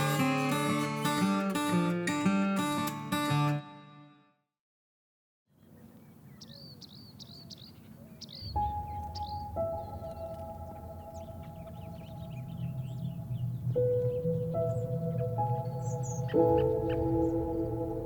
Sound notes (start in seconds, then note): 5.8 birds chirping; 8.4 serene music; 8.9 birds chirping